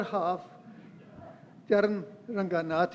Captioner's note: laugh